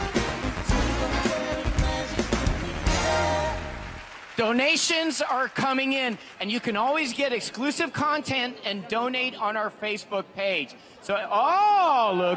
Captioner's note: applause